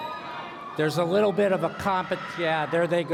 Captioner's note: cheering